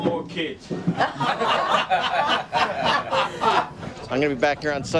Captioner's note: laughing